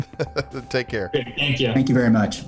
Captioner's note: laughs